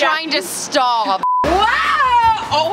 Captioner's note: high pitched beep